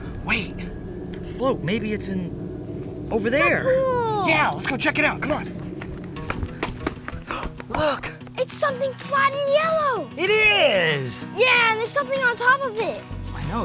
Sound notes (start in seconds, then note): 6.4 gasps